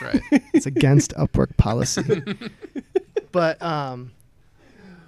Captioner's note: laughter